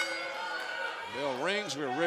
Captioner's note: bell ringing